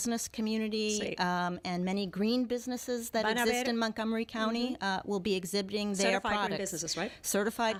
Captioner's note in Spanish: Hablando ingl\s